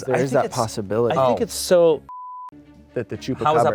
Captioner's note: beep